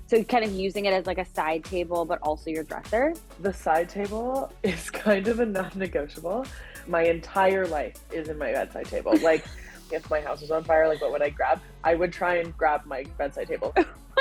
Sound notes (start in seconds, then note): 6.2 chuckling; 9.0 laughing